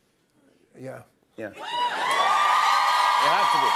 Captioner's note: crowd cheers